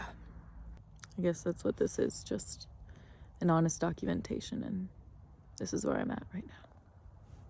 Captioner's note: smacks lips